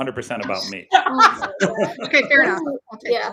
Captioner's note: laughs